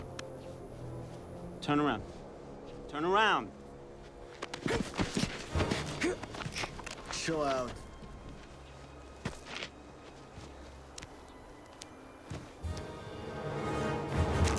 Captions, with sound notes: - Turn around. Turn around. (soldiers scuffling) (tense music) Chill out.